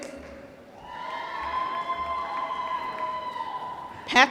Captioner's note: applause